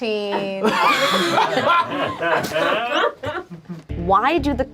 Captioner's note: group laughs